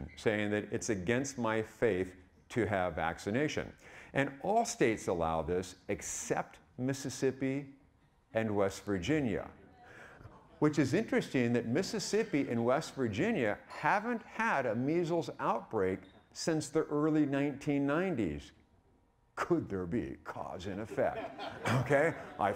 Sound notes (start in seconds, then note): 19.2 dramatically; 20.7 audience laughing